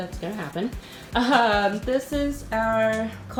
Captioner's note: chuckles